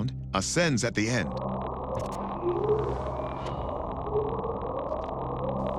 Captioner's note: faint bwoop